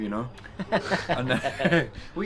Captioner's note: laughs